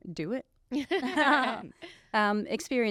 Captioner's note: all laughing